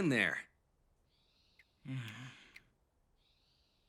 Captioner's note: grunts